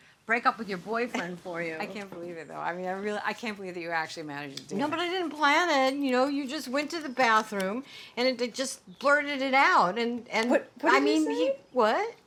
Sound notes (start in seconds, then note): none